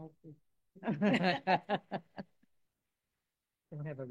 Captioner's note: all laughing